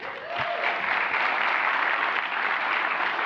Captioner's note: applause